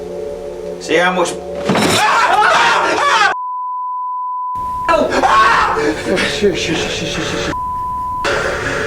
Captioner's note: loud bang; all scream